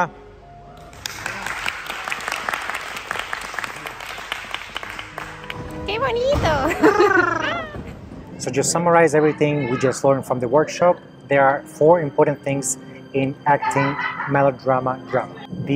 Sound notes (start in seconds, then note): 0.8 applauses; 5.9 Spanish